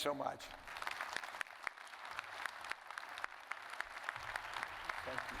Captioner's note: audience applauding